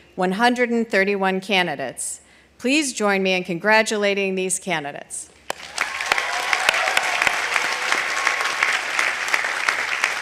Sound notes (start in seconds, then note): 5.5 audience applauding